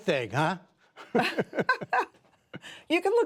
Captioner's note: laughter